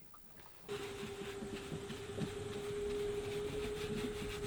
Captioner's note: scratching sound